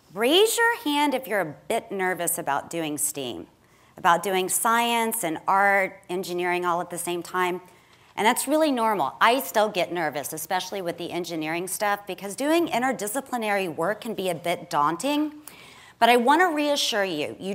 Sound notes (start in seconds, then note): none